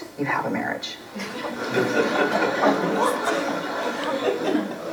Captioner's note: laughs